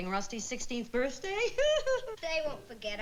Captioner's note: laughs